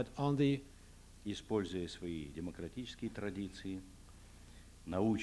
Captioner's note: non-english speech